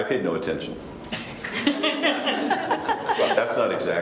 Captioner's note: panel laughs